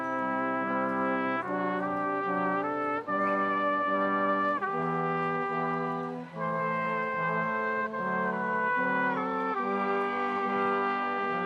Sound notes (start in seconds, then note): none